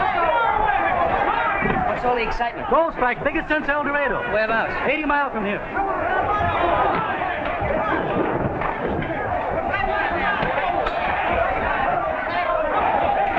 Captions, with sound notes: - What's all excitement? - Gold strike. Biggest since El Dorado. - Where about? - Eighty miles from here. [ CROWD NOISE ]